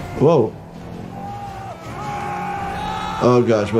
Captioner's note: passenger screaming